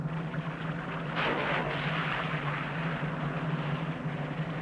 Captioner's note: body splashes